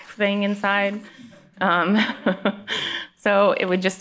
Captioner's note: laughs